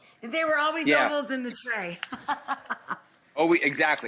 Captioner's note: laughs